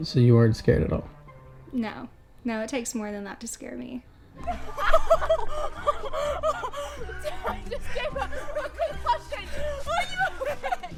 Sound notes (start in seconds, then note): 4.4 girls laughing